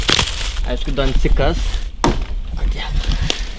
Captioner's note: mumbles building plans